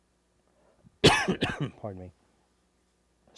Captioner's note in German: Husten